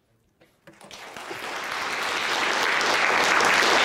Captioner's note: audience applauds